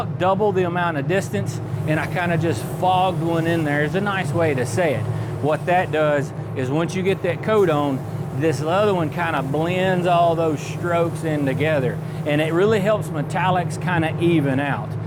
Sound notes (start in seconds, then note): 0.9 whirring